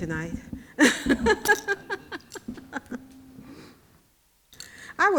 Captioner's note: laughing